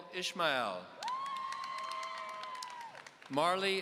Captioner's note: audience cheering